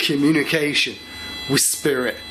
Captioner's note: machine beeping